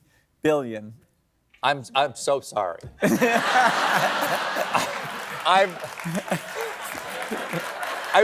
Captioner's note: laughter